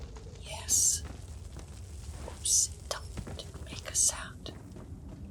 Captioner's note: whispers